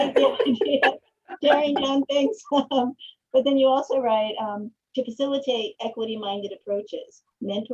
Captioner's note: laughs